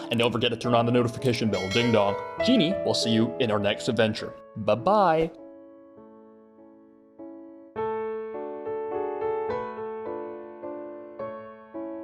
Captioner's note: ding dong